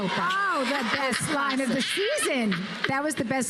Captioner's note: laughs